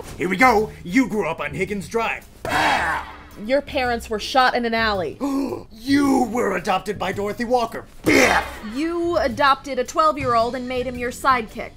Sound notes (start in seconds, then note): 5.2 gasps